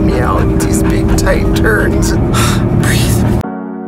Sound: exhales; serene music

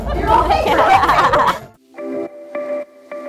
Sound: both laughing; peaceful techno music

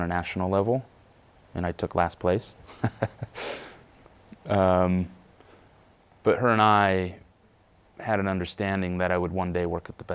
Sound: laughs

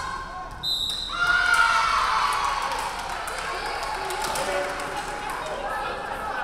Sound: referee whistling; crowd cheering

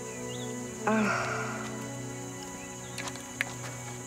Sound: grunts

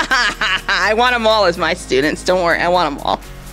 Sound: laughing

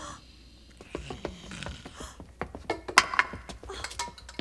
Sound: gasp

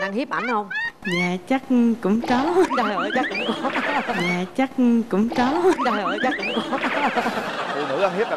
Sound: laugh

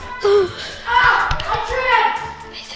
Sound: groans

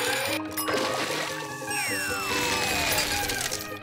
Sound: bell rings

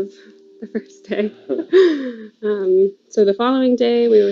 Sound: chuckles

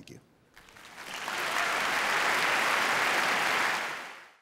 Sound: audience applauding

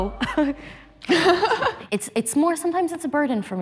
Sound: laughing

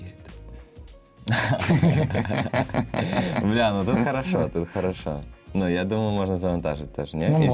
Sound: laughter

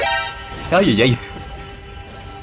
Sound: scared scream noise

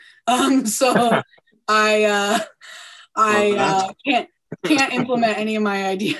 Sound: laughs

